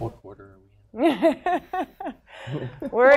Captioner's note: laughter